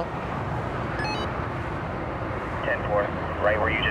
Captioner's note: walkie talkie beeps